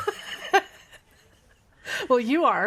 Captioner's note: laughing